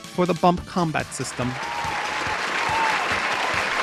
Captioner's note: applause